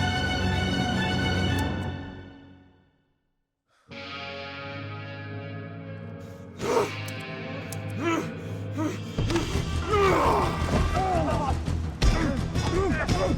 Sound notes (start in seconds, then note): 0.3 gun clicks; 5.3 Sam grunts